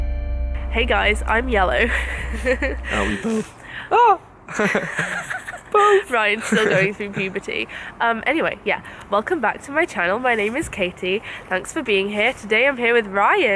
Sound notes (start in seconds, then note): 2.9 voice cracks; 4.9 high pitched